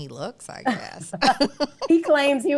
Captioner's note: laughs